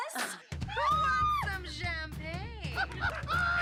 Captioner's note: woman screams; laughing